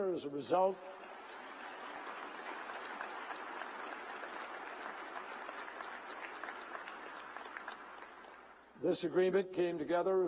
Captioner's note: applause